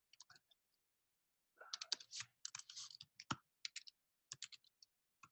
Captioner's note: keyboard keys clicking